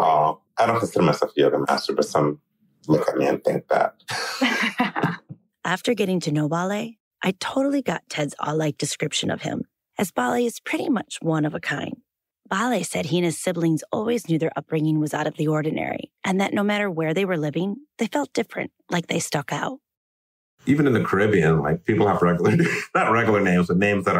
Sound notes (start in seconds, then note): 5.6 laugh